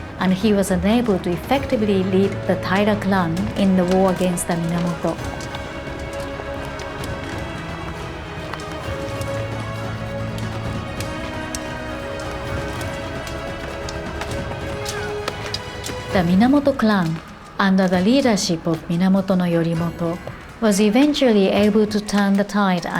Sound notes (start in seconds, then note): 6.2 soldiers shouting; 6.2 tense expectant music